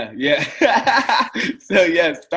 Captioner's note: laughs